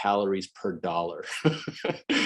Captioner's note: brief laughter